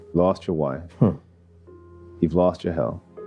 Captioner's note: chuckles